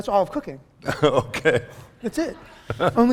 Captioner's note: laughing